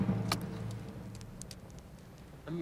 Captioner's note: fire crackling